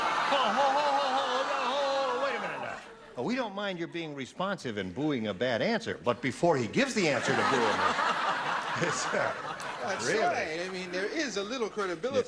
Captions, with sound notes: [BOOING] HOLD ON. WAIT A MINUTE. WE DON'T MIND YOUR BEING RESPONSIVE AND BOOING A BAD ANSWER, BUT BEFORE HE GIVES THE ANSWER TO BOO HIM-- [LAUGHTER] THAT'S RIGHT.